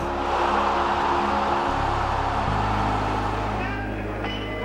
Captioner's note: audience roaring